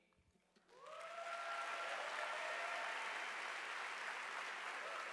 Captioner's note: audience applauding